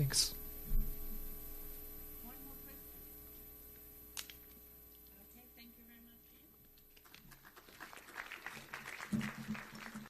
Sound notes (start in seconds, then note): 6.9 audience applauding